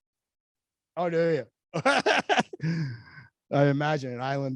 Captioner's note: laughs